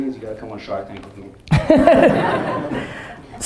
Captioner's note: laughing